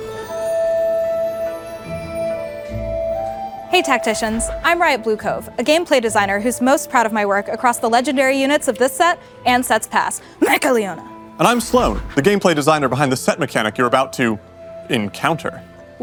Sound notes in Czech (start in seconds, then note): 10.4 kašel